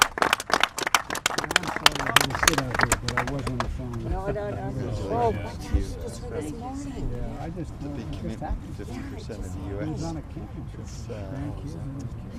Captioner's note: cheers and applause